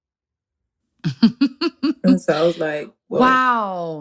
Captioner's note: laughter